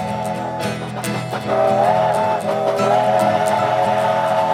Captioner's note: train chugging